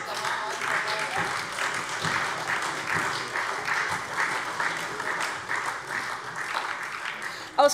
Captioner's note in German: Beifall SPD und Freie Demokraten